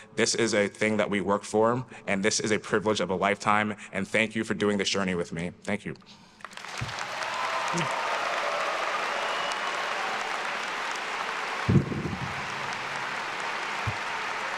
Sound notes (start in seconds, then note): 6.4 attendees applauding and cheering